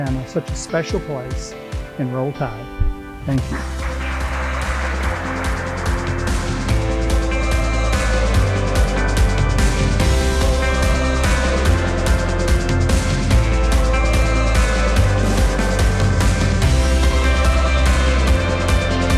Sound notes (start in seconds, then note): 3.4 clapping; 5.4 upbeat music